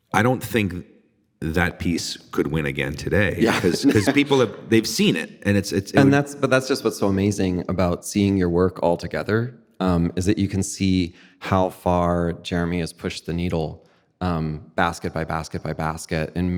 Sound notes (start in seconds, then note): 3.2 laughing